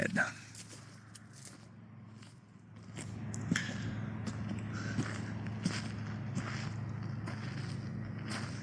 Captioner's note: engine noise